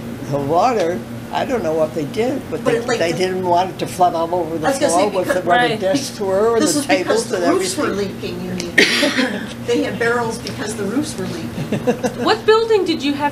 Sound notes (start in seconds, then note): 11.5 laughter